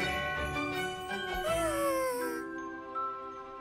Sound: yawns

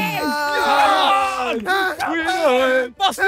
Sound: cheering and celebrating

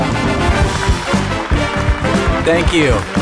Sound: applause

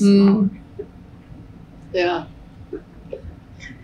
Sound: laughs

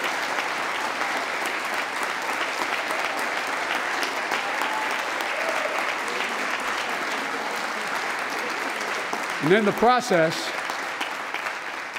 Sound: applause

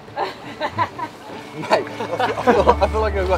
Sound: laughs

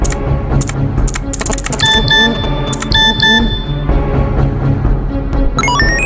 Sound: texting sound; weird digital noises

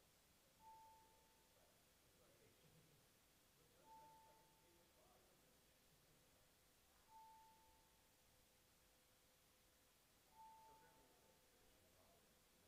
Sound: bells ringing

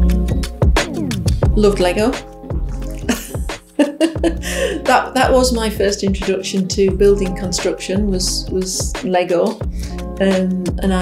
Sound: laughs

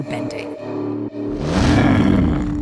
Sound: growling

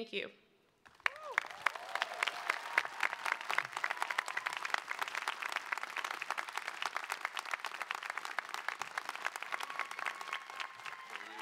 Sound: cheering

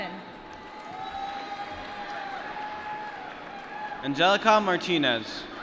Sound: applause

